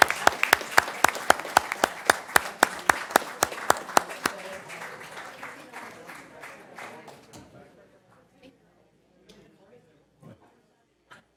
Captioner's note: applause